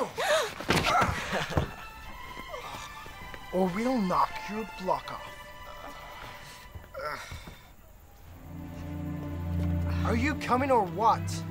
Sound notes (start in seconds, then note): 0.2 stick hits head, Annie gasps; 7.2 groans